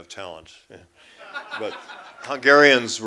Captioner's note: laughter